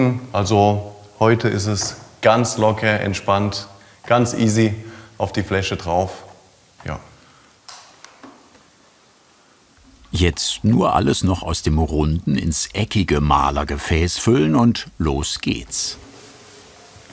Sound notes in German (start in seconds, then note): none